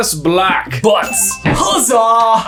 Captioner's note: tone dings